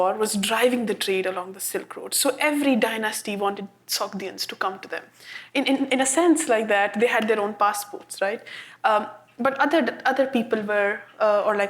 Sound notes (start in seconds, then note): none